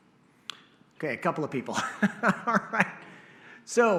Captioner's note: laughter